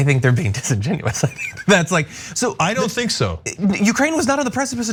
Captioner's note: laugh